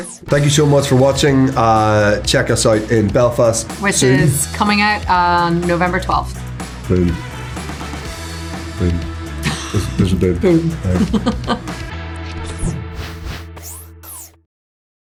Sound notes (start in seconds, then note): 12.4 laughs